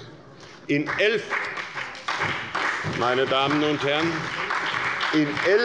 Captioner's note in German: Beifall bei der SPD und der FDP